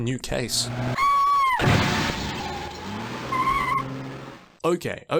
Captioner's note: scream